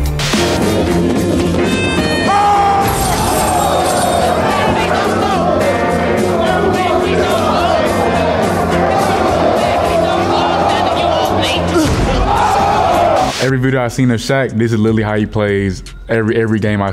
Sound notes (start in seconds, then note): 0.3 upbeat music; 2.5 people shouting; 11.6 collective yelling